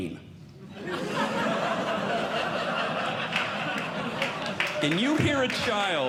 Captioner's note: audience Laughing